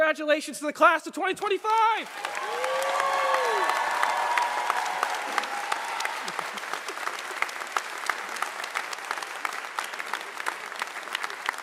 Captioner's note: applause